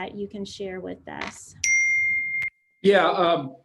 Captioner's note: phone chimes